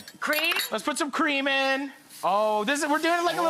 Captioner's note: dish sizzling